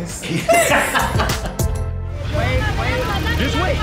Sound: both laughing

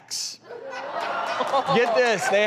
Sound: audience laughs

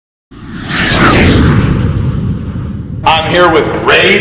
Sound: jet sound

